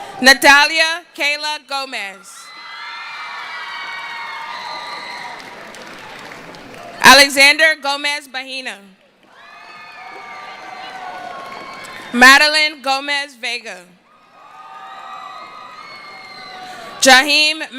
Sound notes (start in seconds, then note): 4.9 cheering; 11.7 cheering